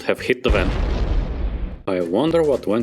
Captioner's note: explosion